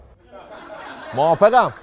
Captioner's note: laughter